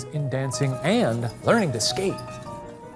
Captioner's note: wheels squeaking; lively piano music